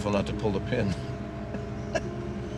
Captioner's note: chuckles